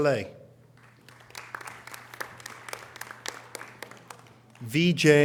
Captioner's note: audience applause